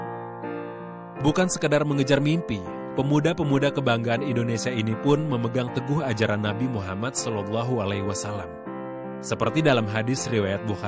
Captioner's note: non-english speech